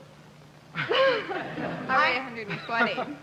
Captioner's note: laughing